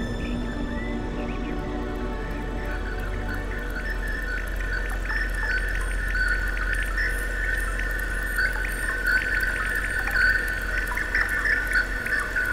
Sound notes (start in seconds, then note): 0.0 music fades; 0.0 birdsong continues, becoming more electronic; 6.3 water dripping